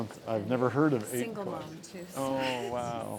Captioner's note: chuckles